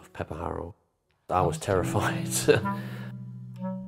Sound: voice duplicated

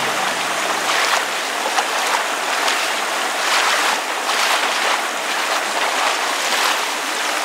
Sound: sound of gentle water lapping against the shore

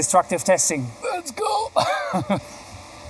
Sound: laughs

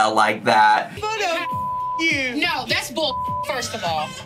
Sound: beep

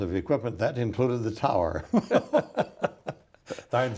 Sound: laughs

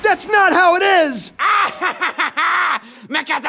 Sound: laughing

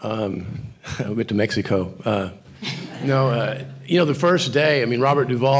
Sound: audience quietly chuckles

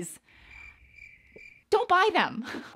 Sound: crickets chirp

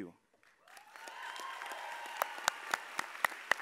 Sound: all applauding

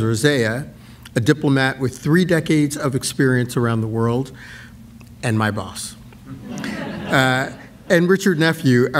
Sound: laughter

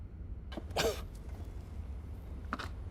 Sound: cough

